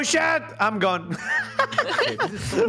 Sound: laughter

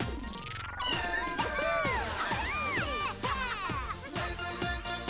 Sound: meowing; all cheering

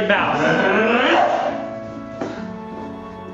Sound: both make mocking noises

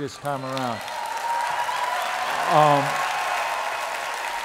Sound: applause

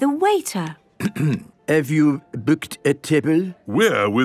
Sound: clears throat

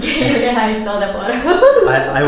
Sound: laughing

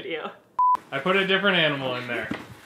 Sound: tone beeping

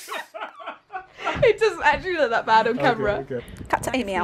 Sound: laughter

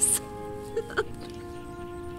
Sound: laughs

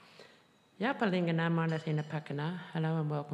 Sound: speaking foreign language

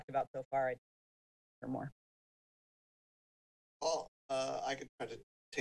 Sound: speaks faintly

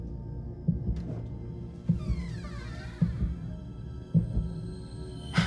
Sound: door creaking

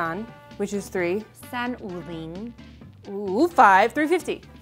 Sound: speaking in mandarin

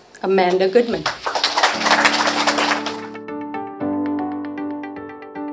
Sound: audience applauding

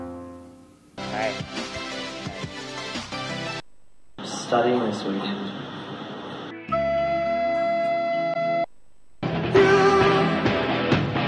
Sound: TV noise

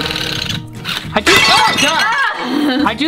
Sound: objects clanking; chuckles

